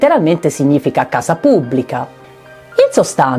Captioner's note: in Italian